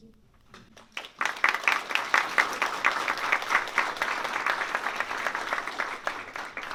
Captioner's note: applause